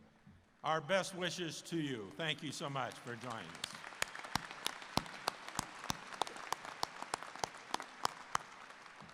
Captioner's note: applause